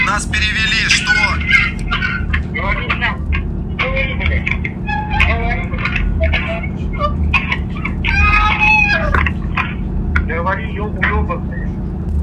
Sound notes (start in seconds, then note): 8.0 screams